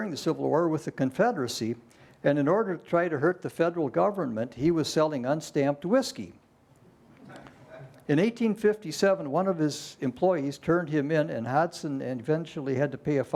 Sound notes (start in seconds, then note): 7.1 laughter